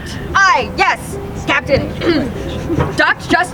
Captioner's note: clears throat